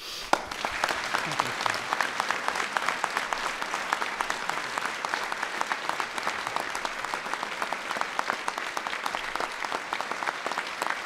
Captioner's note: applause